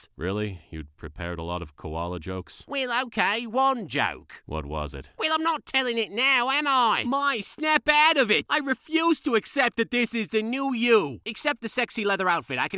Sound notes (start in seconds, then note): none